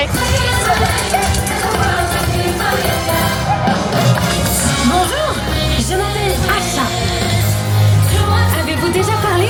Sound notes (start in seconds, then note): 0.1 upbeat music; 5.5 Asha speaking French